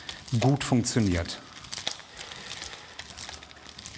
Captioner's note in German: Knistern